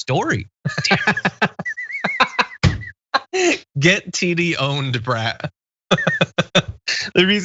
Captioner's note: laugh; laugh